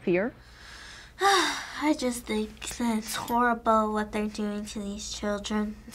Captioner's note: sighing